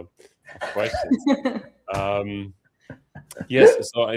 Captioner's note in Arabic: ضحك